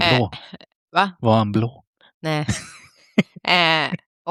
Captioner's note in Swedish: skratt